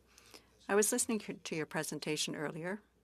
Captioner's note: speaking French